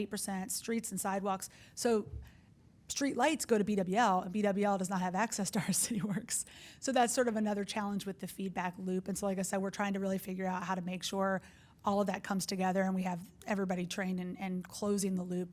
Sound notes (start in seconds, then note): 5.6 laughing